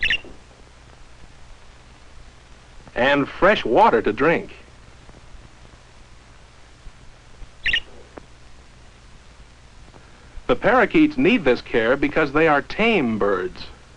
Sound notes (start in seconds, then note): 7.6 chirping